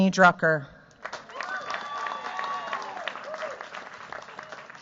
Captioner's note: cheers, applause